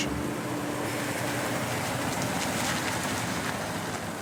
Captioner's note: vehicle droning